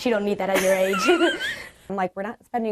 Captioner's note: laughs